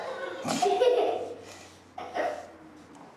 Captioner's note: laughs; robin snorts